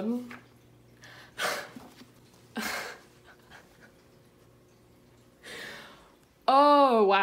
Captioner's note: laughing